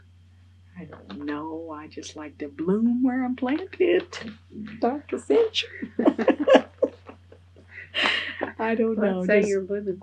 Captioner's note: laughs